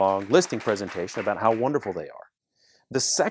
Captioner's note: clapping